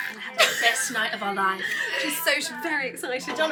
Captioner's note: laughing